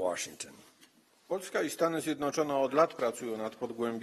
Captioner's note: speaking polish